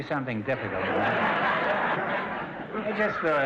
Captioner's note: audience laughter